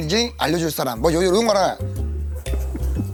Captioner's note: cracking up